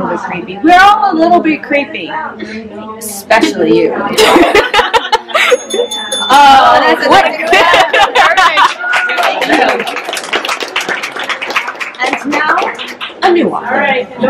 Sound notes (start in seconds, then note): 5.4 ending bell ding; 9.1 laughter